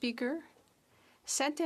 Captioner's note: speaking French